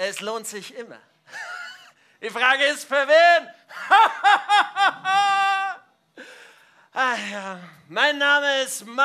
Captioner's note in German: lacht